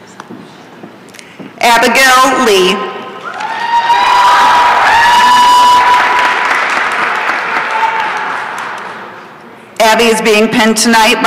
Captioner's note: applause and cheering